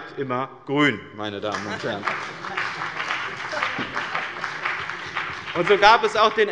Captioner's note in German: Beifall bei den GRÜNEN